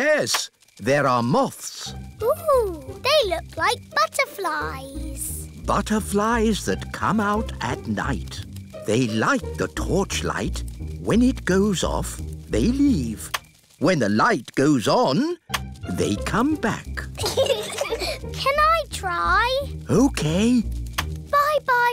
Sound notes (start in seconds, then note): 17.1 peppa and george giggle